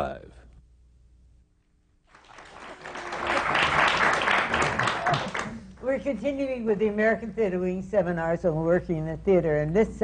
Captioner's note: applause